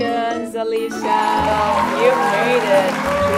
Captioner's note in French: applaudissement